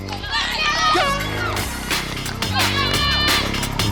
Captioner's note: horn blows; crowd cheering; electronic music